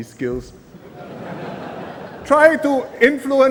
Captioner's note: laughter